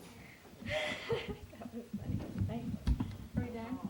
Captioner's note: laughs